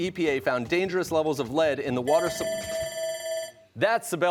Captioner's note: timer ringing